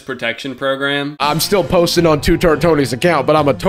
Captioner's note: southern accent